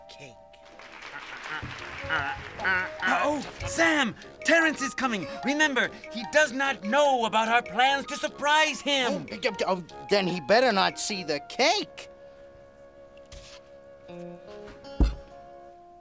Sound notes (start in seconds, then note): 0.6 applause; 1.0 squawking; 15.0 thud